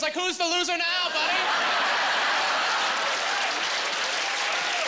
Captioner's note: laughing